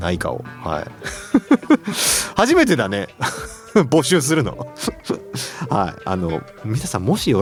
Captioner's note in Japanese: 笑い